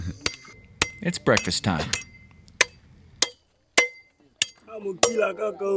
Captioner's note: machete clanking